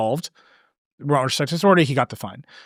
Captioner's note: speaking softly